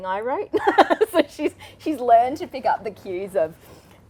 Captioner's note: laughs